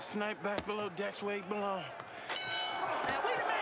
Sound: bell rings

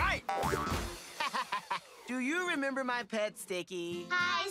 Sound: laughing

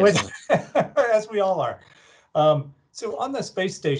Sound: laughs

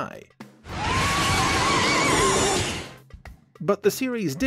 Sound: roaring

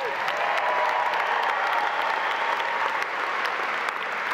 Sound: audience applauding

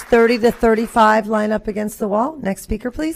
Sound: applause

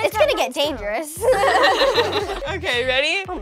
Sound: laughing

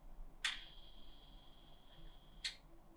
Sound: click

